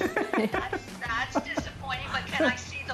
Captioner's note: laughs